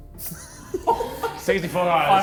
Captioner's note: men laughing